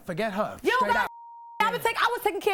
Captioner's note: beep